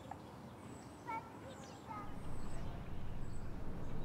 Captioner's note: indistinct chatter